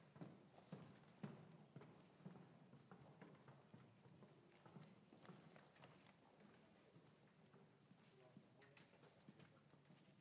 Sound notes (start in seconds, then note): none